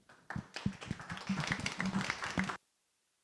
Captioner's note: applause